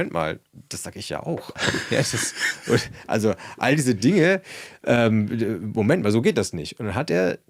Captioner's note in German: gelächter